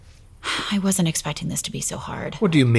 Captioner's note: sighing